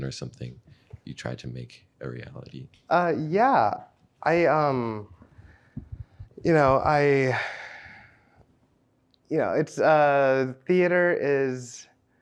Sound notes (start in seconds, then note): 6.8 sighs